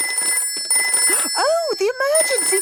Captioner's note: phone ringing